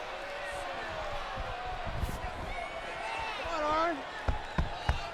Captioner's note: crowd chatter